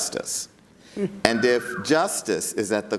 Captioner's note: audience member whistles